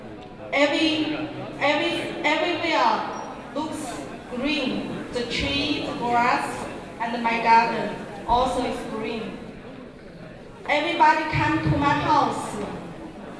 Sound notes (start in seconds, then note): 1.0 crowd talking; 3.5 speaking in Mandarin